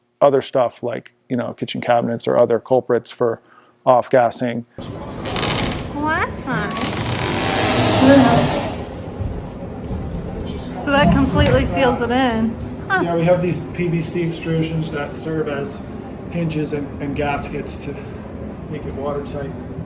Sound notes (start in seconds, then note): 7.8 door creaking